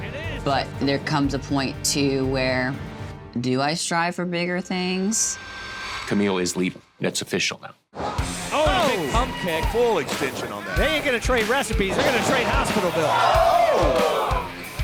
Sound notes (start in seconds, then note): 8.4 commentators exclaim; 12.6 crowd exclaiming